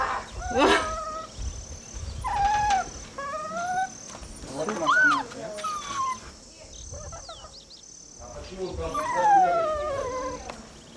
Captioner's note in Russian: скулит